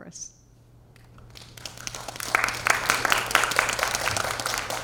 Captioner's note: audience applause